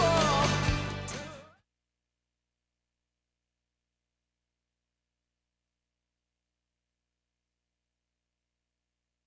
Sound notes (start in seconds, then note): 2.3 audio drop